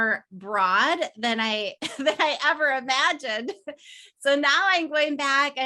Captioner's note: chuckles